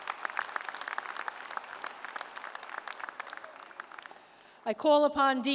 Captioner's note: applause